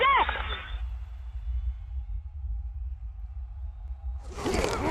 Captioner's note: intense rumbling; grunting